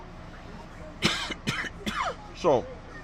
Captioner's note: coughs